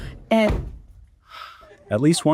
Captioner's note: door slamming